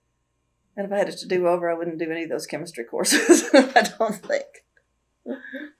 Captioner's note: laughs